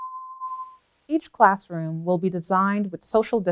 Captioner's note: bell tone